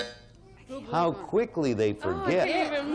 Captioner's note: buzzer sounds